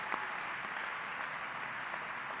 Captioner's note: applause